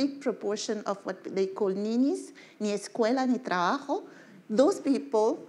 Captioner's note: speaking in foreign language